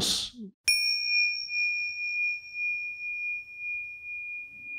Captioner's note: chime ringing